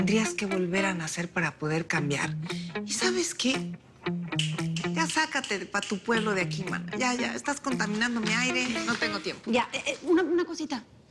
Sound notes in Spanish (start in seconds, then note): 4.3 Chasquidos